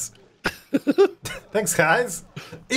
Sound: laughing

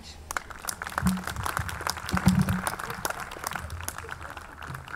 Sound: audience clapping

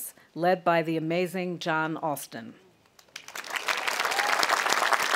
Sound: audience applauding

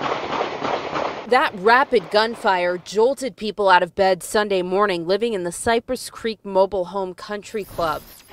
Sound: sound of gunfire

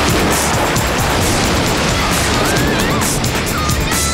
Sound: screams

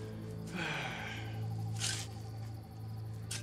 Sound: sighs

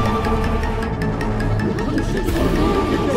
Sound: indistinct chatter

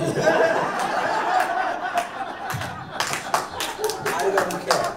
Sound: people laughing

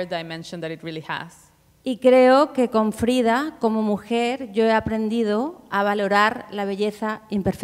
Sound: speaking Spanish

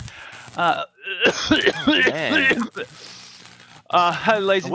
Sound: coughs; laughing

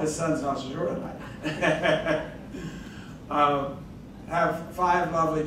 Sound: laughing

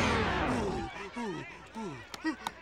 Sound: panting

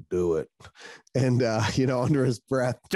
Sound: chuckles

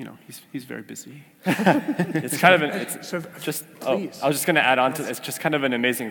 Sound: laugh

